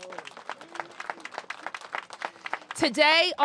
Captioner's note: applause